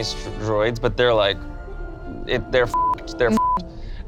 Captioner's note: beep